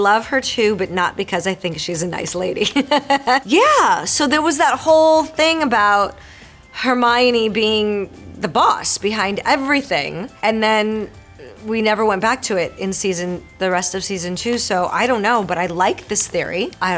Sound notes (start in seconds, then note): 2.6 Marisol laughing